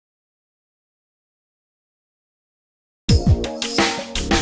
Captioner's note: silence